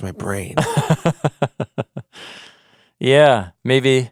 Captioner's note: laughing